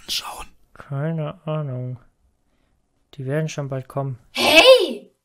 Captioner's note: whispering